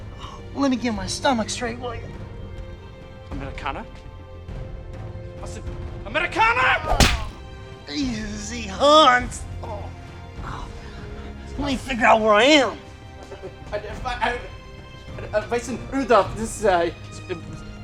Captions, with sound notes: - Let me get my stomach straight, would you? - Americana? Americana!!! - Easy, Hanz! Let me figure out where I am. (stutters)